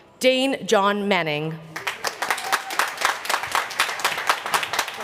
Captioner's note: applause